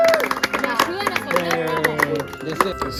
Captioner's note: applause